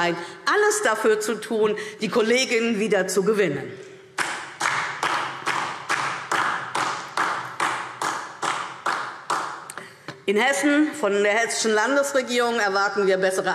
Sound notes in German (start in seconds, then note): 4.2 Beifall DIE LINKE